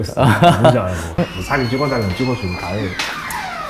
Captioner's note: creaaaak; door opening; creaaaak; door opens